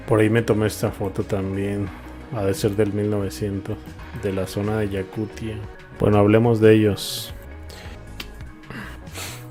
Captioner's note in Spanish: resoplido